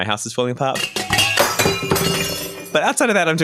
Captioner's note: objects falling and glass breaking